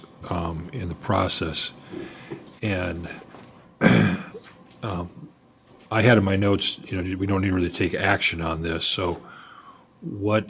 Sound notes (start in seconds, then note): 3.8 clears throat and cough